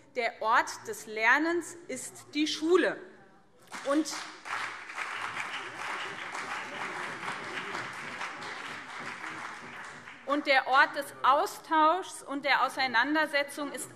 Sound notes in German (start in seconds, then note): 3.6 Beifall BÜNDNIS 90/DIE GRÜNEN und CDU